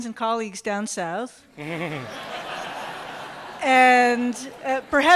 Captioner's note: laughter